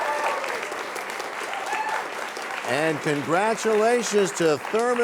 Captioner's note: cheers and applause